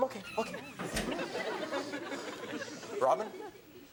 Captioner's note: audience laughs